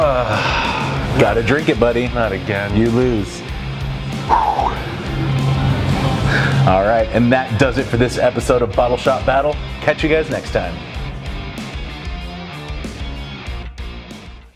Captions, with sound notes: (groaning) - Gotta drink it buddy. - Not again. - You lose. (fortifying sigh) All right, and that does it for this episode of Bottle Shoppe Battle. Catch you guys next time! (intense rock music)